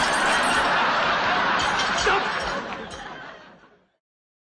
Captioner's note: audience laughing